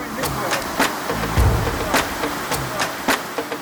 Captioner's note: water rushes